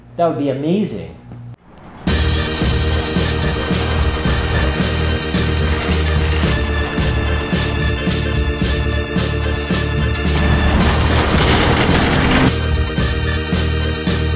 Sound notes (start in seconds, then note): 2.1 upbeat lively music; 4.3 shopping car clattering; 4.3 upbeat lively music